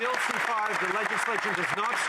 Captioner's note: some Applause